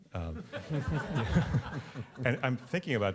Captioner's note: laughter